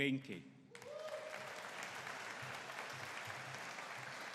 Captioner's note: audience cheering